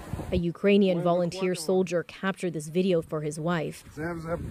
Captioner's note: speaking Foreign Language